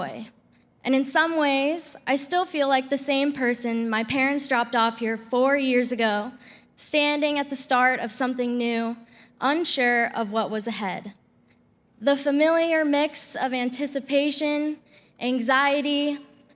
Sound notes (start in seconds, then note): none